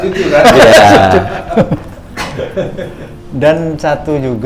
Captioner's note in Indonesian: tertawa